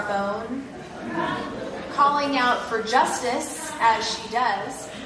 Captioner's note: laugh